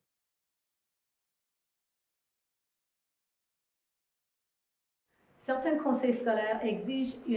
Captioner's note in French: silence